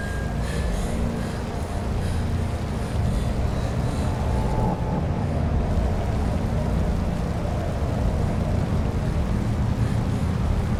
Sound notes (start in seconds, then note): 0.0 ominous music; 0.4 breathes heavily